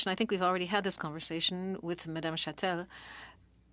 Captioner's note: speaking French